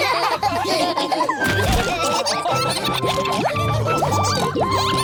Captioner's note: all laughing